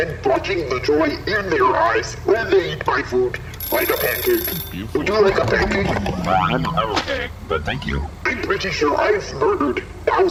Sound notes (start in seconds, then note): 3.6 egg timer rings